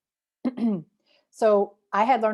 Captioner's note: clears throat